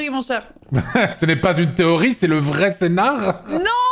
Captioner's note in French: rire